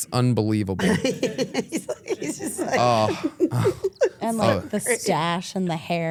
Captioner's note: Stephanie laughing